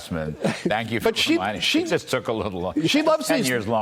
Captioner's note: laughter